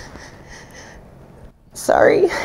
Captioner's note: choking up